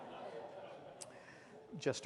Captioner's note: laughter